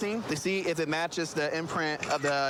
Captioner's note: camera app clicks